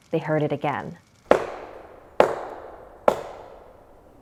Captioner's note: knocking